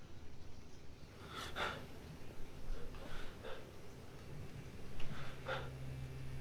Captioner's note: heavy breathing